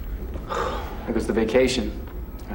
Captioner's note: sighs